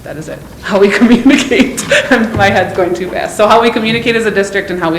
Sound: laughs

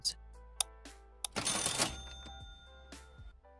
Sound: cash register dings

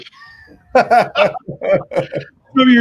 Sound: both laugh

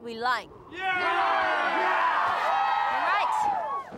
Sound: cheering

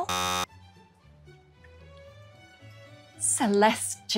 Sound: buzzer blares

